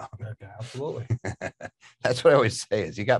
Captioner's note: laughs